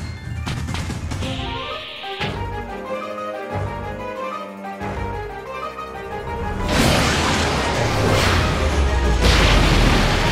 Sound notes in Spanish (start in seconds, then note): none